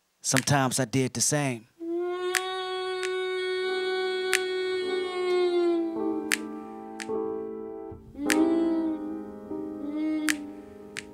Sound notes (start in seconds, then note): 1.8 Mulher gemendo